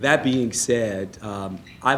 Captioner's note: laughing